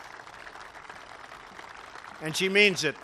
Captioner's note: applause